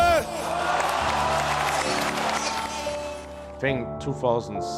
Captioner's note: announcer shouting in foreign language; crowd cheering